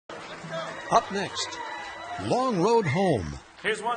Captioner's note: voiceover